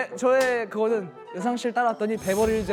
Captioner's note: slap!